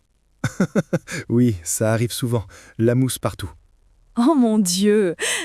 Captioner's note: laughs